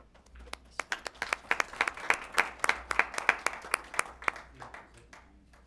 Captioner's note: applause